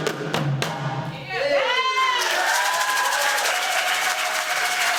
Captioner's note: applause